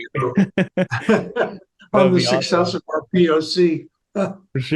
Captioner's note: chuckles